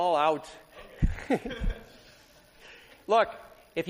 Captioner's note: laughter